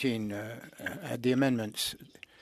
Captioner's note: speaking French